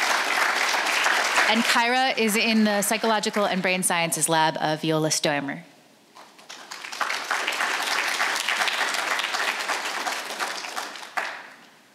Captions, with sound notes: And Kyra is in the Psychological and Brain Sciences Lab of Viola Stoermer. (audience applauds)